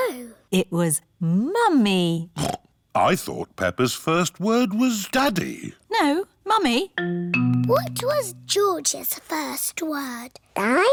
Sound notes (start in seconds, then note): 2.6 snorts